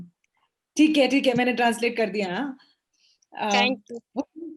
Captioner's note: speaks foreign language